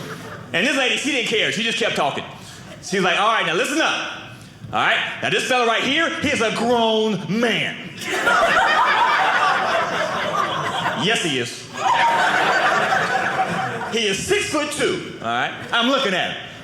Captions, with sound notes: And this lady-- she didn't care. She just kept talking. She was like, "All right, now listen up. "All right? "Now this fellow right here? "He's a grown man. (audience laughing) "Yes he is. (audience laughing) "He is 6 foot 2. "All right. "I'm looking at him. "All right?